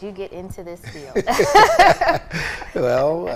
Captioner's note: laughing